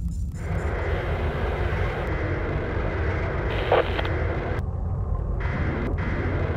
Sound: subdued movement sound cues; growling of wheels and radio static

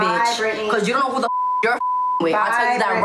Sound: beep

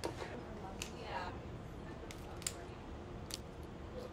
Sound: cracking

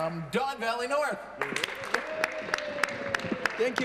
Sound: applause

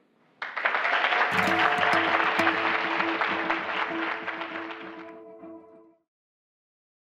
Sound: applause

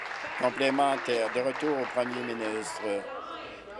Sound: applause

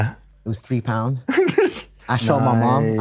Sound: laughs

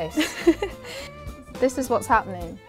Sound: laughs

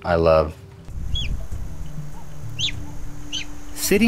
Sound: lion squeaking

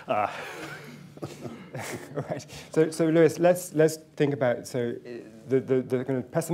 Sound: chuckles; laughter

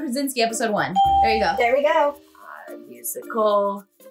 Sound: bell rings

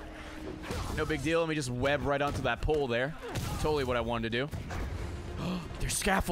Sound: gasps

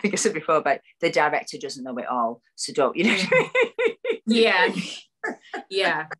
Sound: laughs

